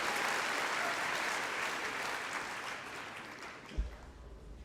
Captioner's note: applause